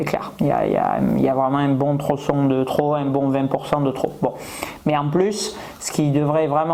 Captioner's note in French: grognement